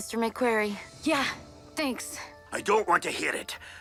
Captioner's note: crickets chirping